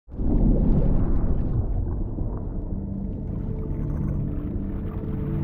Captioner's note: strong underwater current moving